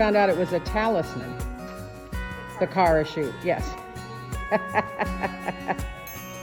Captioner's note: laughs